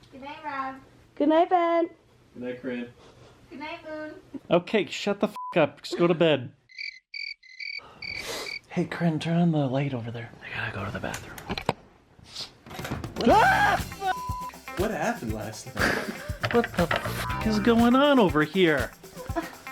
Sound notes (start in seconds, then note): 6.7 cricket noises; 13.2 screams